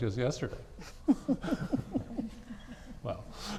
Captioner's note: laughing